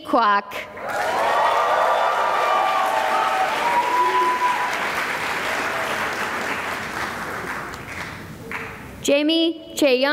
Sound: cheering and applause

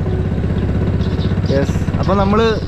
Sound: sound of boat engine

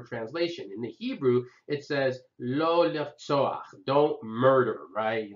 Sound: hebrew

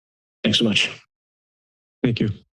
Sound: silence

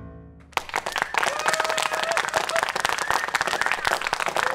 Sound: cheers and applause

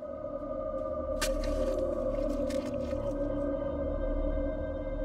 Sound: knife stabbing

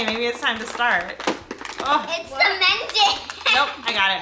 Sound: laughing

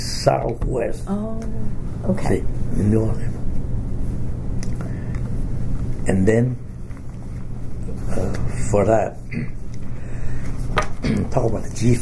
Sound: coughs

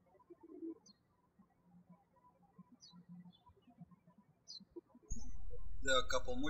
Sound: birds chirping

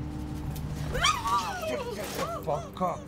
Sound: muffled screaming

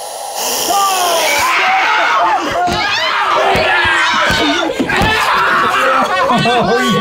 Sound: screaming

